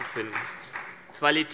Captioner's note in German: Beifall BÜNDNIS 90/DIE GRÜNEN